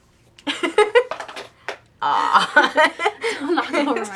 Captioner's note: laughter; sounds of things falling